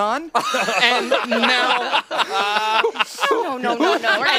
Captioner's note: laughing